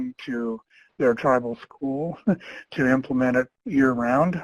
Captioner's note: chuckles